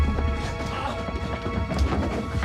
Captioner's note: shuffling; groans